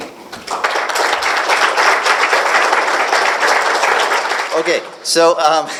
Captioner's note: applause